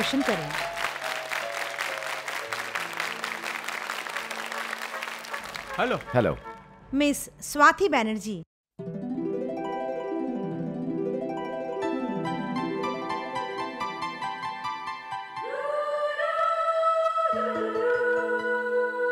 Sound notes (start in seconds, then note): 0.0 applause